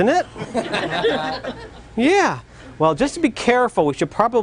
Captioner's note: loud laughter